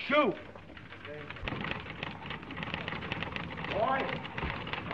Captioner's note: typewriter clacking; office workers shouting